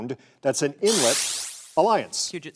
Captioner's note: electronic buzzerou snds